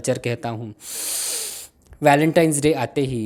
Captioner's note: breathes in